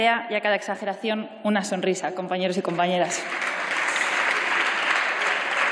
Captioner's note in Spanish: Aplausos